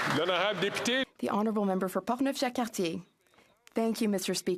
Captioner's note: some Applause